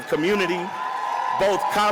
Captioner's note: audience cheers and applauds